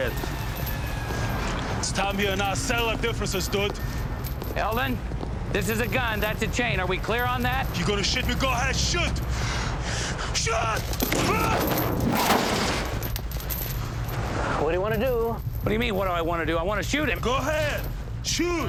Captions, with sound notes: - I need you dead. It's time you and I settle our differences, dude. - Eldon, this is a gun, that's a chain. are we clear on that? - You gonna shoot me? Go ahead. Shoot! (breathing heavily) Shoot! (grunting) - What do you wanna do? - What do you mean, what do I wanna do? I wanna shoot him. - Go ahead! Shoot!